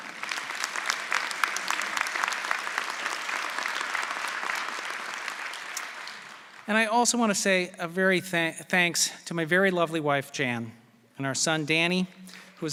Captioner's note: applause